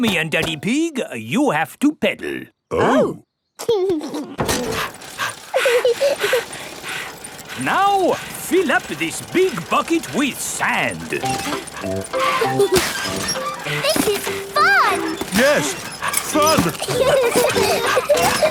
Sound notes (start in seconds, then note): 4.0 chuckles; 4.0 daddy pig panting; 5.9 mummy pig panting; 5.9 peppa chuckles; 12.1 mummy and daddy pig panting; 12.1 peppa and george laughing; 15.6 straining; 17.2 peppa and george laughing